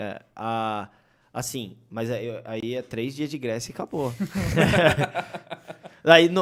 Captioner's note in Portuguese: risos